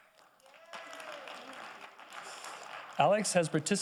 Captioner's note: audience applauding